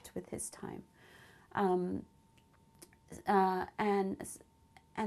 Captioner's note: pauses for 3 seconds